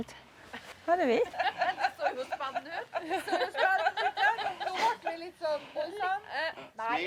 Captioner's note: laughter